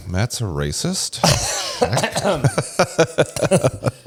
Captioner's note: laughs